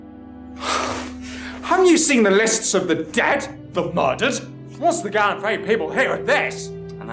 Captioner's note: frustrated sigh